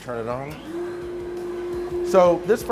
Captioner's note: furnace whirring